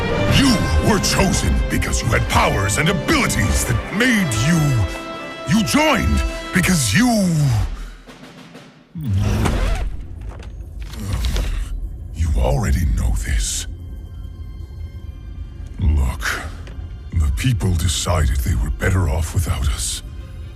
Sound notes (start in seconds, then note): 10.9 sigh